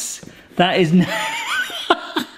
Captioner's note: person laughing